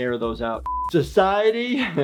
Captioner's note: high pitch beep